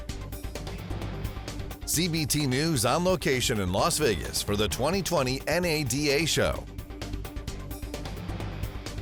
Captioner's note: voiceover